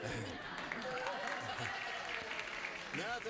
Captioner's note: gene chuckles; audience cheers